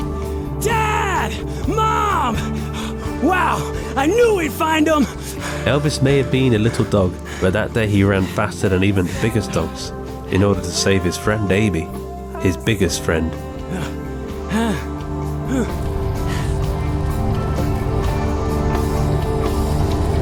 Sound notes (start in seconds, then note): 2.4 Elvis heavily panting; 14.4 Elvis heavily panting; 14.9 truck rattling; 15.7 upbeat expectant music